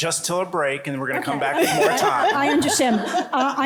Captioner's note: laughter